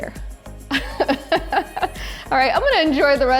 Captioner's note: laughing